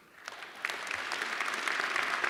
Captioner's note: applause